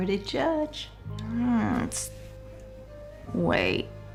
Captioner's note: groans